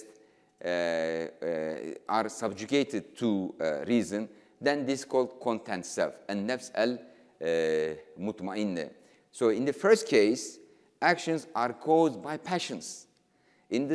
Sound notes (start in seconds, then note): 6.1 speaking in foreign language